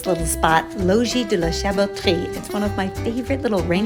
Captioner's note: speaking in foreign language